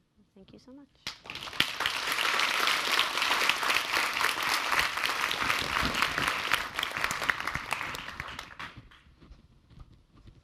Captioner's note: applause